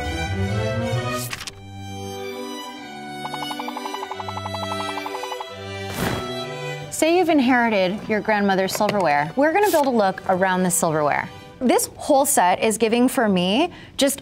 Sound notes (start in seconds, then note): 1.3 page flapping; 1.7 classic music; 3.3 items popping; 5.8 tablecloth whooshing